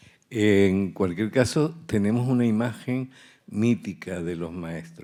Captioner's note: speaking in Spanish